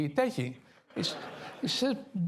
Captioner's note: laughter